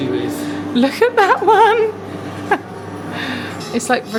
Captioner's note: laughing